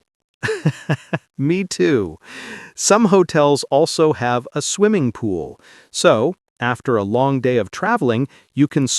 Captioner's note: laughing